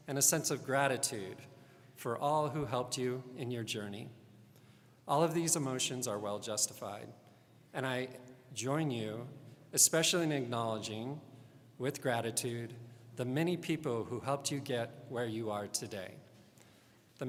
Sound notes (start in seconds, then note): none